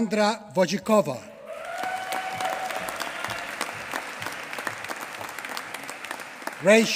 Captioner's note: applause